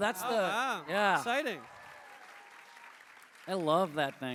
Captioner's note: cheers